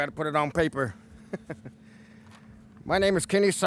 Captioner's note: chuckling